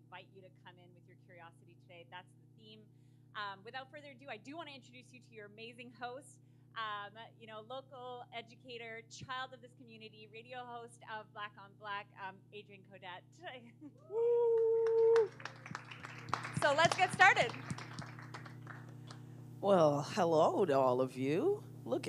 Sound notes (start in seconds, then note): 14.5 cheering